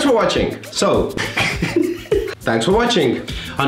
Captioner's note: laughs